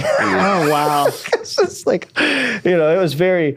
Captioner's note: laughing